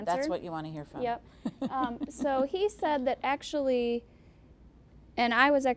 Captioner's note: chuckling